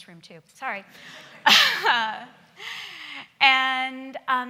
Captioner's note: laughing